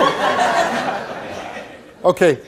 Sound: audience laughs

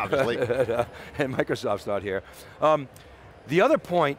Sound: chuckles softly

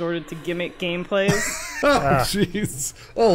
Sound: laughs

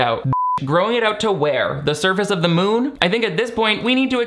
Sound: beep

